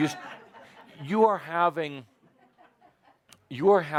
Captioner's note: laughter